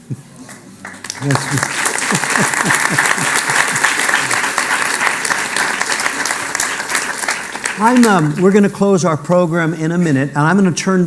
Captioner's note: applause